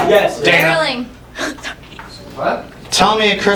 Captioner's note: laughs out an "I'm sorry"